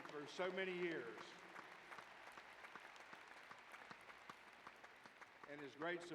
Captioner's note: applause